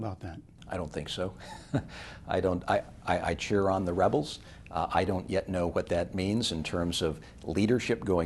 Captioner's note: chuckles